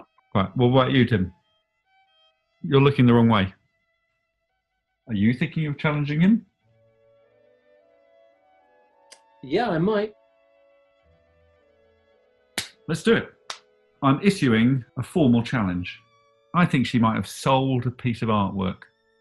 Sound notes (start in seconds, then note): 12.5 claps and cracks knuckles